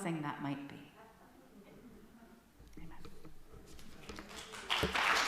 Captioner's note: quiet; applause from congregation